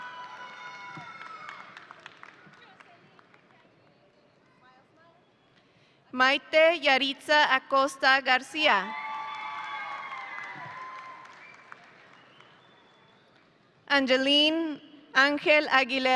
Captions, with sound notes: (audience applauding) Mayte Yaretzi Acosta-Garcia. (audience cheering) Angelyn Aguilera.